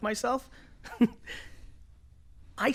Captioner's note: laughs